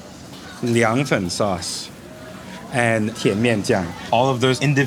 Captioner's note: speaking in foreign language